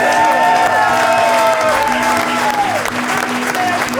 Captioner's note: crowd cheering